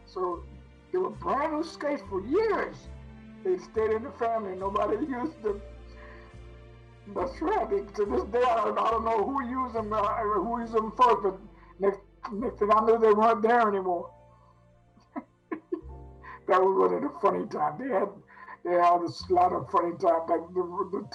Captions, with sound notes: So they were brand new skates for years. They stayed in the family and nobody used them. But I swear, to this day, I don't know who used them or who used them first, but next thing I knew, they weren't there anymore. (laughs) That was one of the funny times. They had a lot of funny times back then.